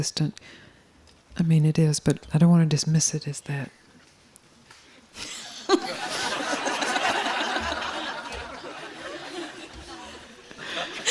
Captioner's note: laughter